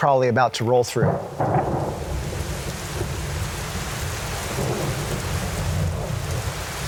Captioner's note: thunder booming; water splashing